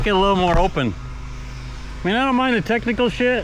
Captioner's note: engine revving